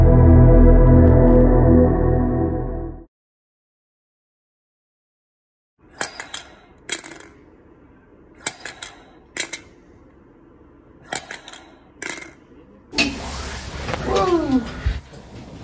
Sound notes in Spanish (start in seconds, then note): 8.7 machine sound; 8.7 sónido de máquina; 12.7 struggling; 14.0 esforzándose